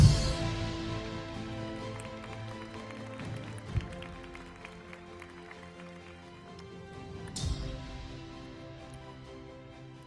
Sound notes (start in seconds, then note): 0.9 audience applauding; 5.2 uplifting music continues